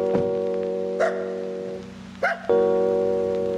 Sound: dog barking

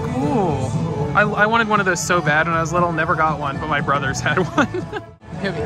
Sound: laughs

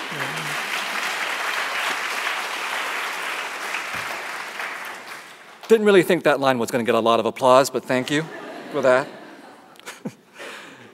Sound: applause

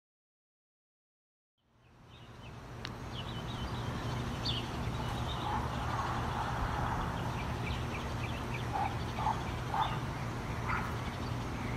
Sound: night atmosphere sounds

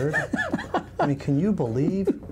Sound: laughing

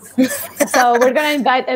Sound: laughs

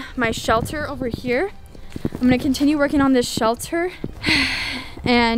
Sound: sighs

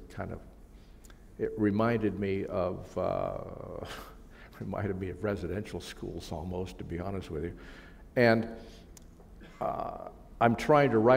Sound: chuckle

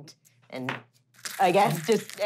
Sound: skittering

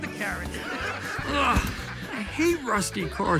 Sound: laughs

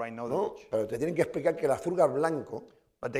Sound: speaking spanish

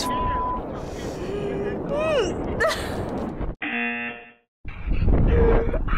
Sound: buzzer; gasps and laughs; man laughs

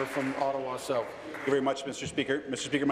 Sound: applause

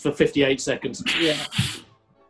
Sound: laughing

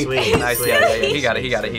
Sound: bell dings

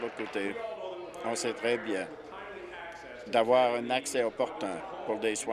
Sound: applause

